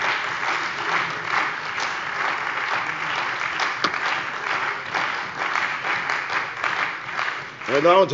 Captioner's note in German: Beifall bei der CDU und dem BÜNDNIS 90/DIE GRÜNEN